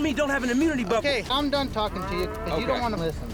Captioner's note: cows mooing